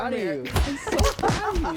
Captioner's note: laughing